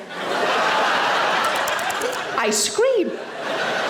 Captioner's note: audience laughing